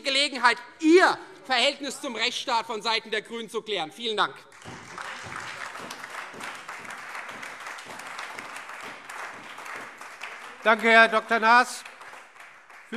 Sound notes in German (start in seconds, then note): 4.5 Beifall Freie Demokraten, vereinzelt SPD und AfD